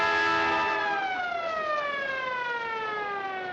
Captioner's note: siren Blaring, Horn Honking; siren Winding Down